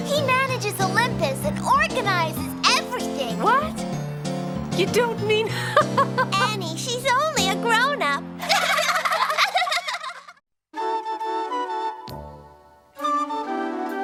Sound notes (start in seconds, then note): 5.9 laughs; 8.4 laughter; 10.7 cheerful music